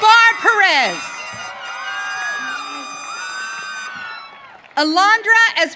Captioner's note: audience cheering